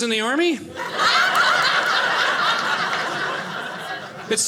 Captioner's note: audience laughing